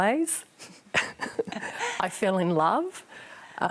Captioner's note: both laugh